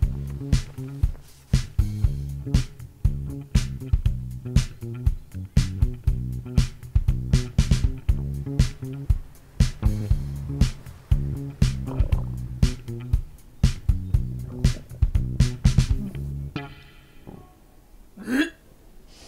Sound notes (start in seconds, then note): 11.6 stomach churns; 14.4 gags